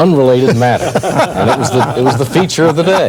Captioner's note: laughter